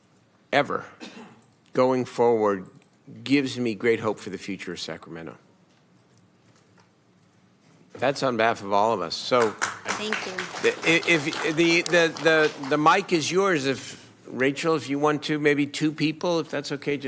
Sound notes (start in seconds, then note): 13.3 applause